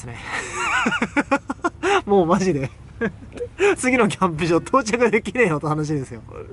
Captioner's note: laughs